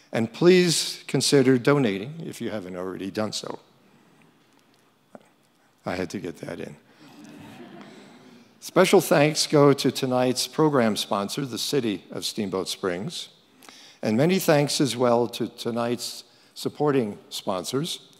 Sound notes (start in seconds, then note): 7.0 crowd laughing